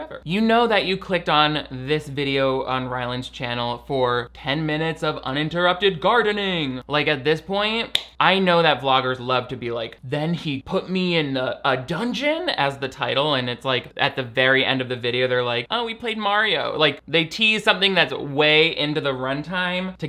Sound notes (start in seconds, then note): none